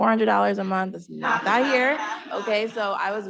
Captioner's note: panelist laughing